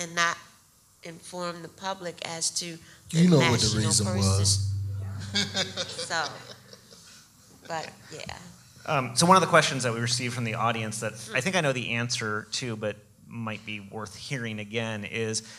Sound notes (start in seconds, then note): 5.3 laughing